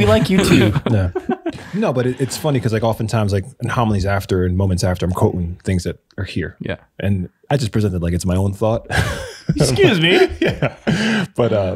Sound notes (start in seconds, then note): 8.9 innocent laughing